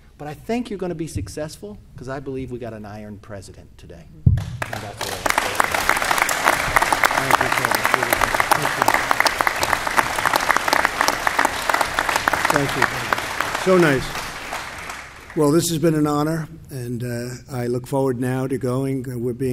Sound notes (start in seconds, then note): 4.4 applause